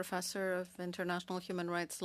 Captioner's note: speaking French